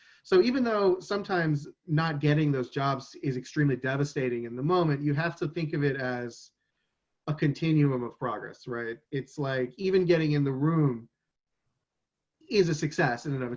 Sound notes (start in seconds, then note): none